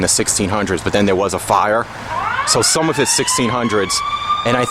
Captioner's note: sirens